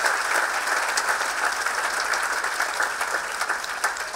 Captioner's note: audience clapping